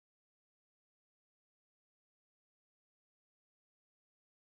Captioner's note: none